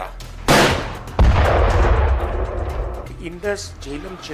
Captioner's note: gun shot